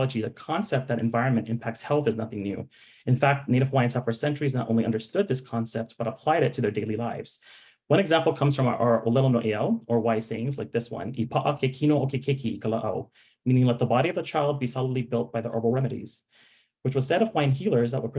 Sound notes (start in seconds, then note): 9.0 speaking in Hawaiian; 11.2 speaking in Hawaiian